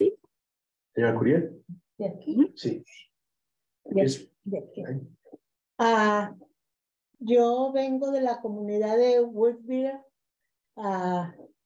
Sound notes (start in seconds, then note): 1.9 speaking in Spanish